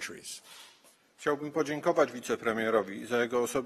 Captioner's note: speaking polish